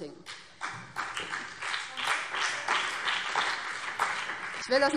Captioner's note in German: Beifall BÜNDNIS 90/DIE GRÜNEN und vereinzelt CDU